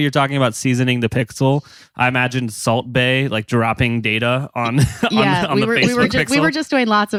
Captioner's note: laughs